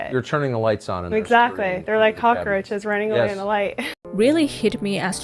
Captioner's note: laughs